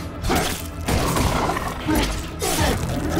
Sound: guns firing

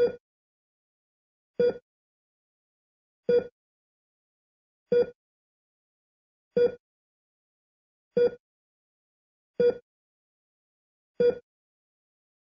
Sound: Bips d'un cardioscope

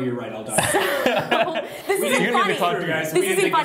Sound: laughter

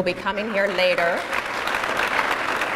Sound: applause

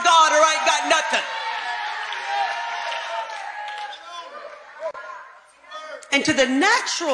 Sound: congregation cheering

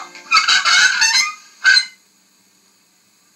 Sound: creak

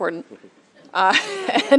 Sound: laughter

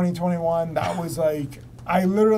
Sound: laughs

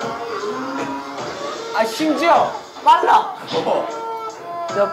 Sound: creaking

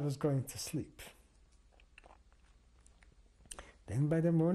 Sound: pauses for 3 seconds

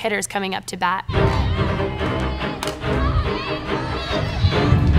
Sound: cheering

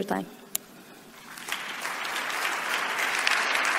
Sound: applause

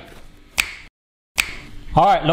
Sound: tapping fingers

